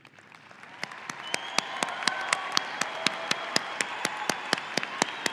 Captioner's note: audience applauding and cheering